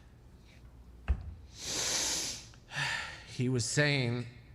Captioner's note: exhales